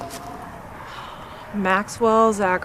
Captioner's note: Angelica sighs